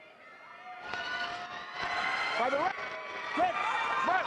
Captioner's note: audience cheering